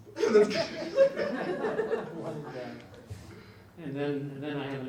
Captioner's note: audience laughs